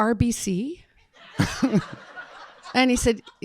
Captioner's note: audience laughing